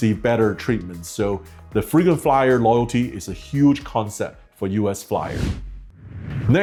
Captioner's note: whooshing